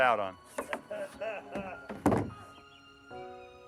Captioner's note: man laughs